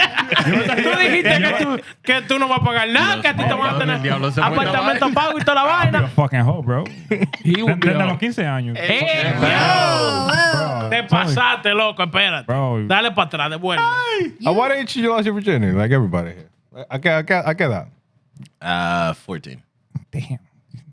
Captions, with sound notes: (Laughing) You're a fucking hoe, bro. He would put the nokise on you. (Cheering) (Speaking In Foreign Language) Why don't you ask your virginity, like everybody here? I can't, I can't, I can't. 14.